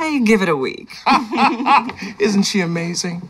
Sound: laughter

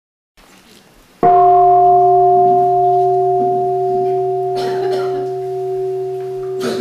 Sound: gong

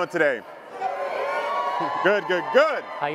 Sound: audience cheering

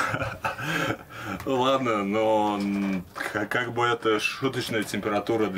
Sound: laughing; speaking in foreign language

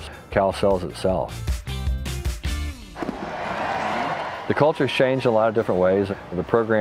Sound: crowd roars as team runs out

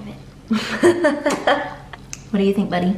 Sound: laughs

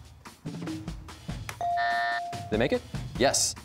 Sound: ringer chimes, buzzer sounds

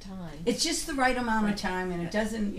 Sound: voiceover

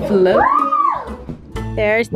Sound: cheering

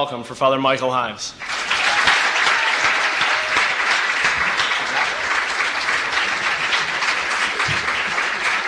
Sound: applause

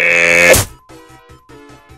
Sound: funny splat

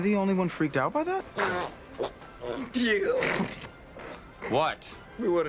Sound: stifiled laughter that sounds a bit like farts tbh being honest

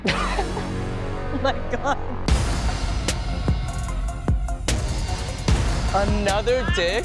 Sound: laughs

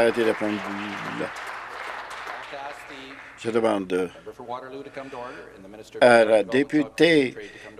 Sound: applause; voice trailing

